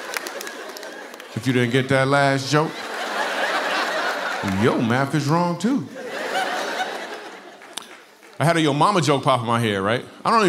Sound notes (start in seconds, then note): 2.9 laughter